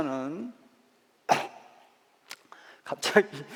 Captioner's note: coughs